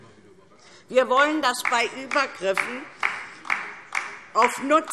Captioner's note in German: Beifall DIE LINKE